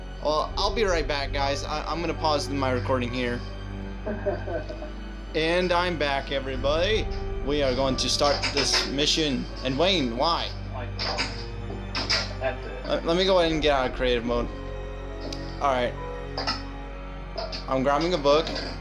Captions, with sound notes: Well, I'll be right back guys! I'm gonna pause my recording here! *giggle* And I'm back everybody! We are going to start this mission. And Wayne, why?! Let me go ahead and get out of Creative Mode! Alright... I'm grabbing a book.